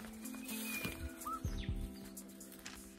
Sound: birds chirping

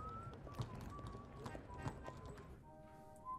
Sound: whistling

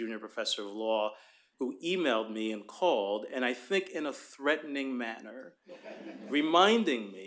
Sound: laughter

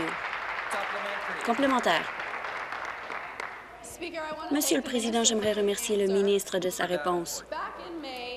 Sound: applause

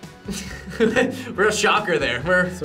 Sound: laughs

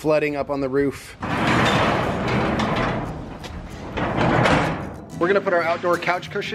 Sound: garage door slides

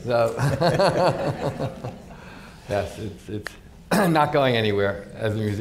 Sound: laughs

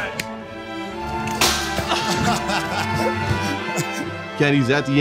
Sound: whimsical music; laughs

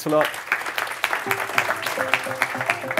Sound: applause

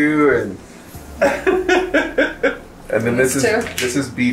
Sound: laughing

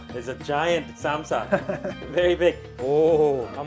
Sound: laughing

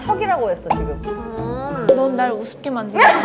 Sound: uh…

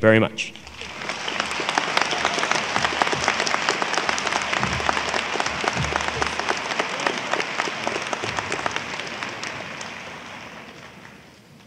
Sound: applause

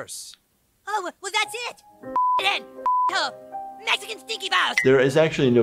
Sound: beep

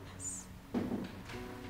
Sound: knock

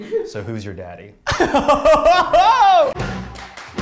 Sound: laughs; bright upbeat music

